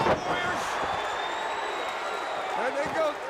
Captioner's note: crowd cheering